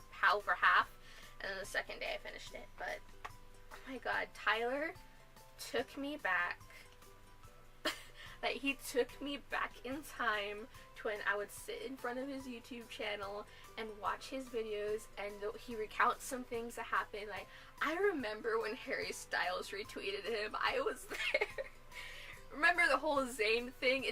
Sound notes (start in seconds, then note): 7.8 weird laugh